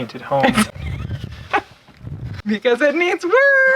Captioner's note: laughing